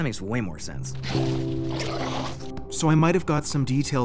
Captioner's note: 2Bells growling